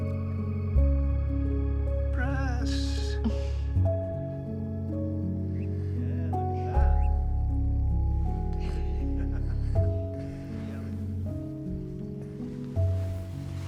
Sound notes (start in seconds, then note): 2.6 Anna chuckles